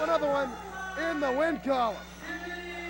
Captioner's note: bell